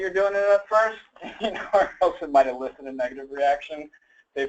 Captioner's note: laughs